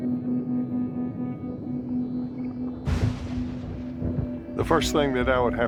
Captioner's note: thunder crashes